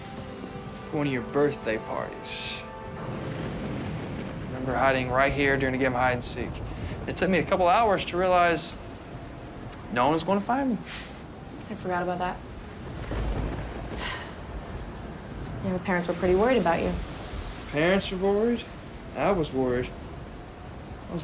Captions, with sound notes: to one of your birthday parties. I remember hiding right here, during a game of hide-and-seek. It took me a couple of hours to realize no one was going to find me. (chuckles) I forgot about that. All the parents were pretty worried about you. Parents were worried. And I was worried.